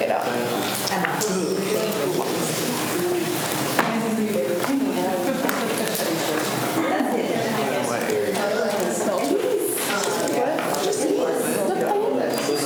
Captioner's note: students chatter